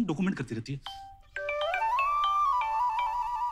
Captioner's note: Cell phone ringing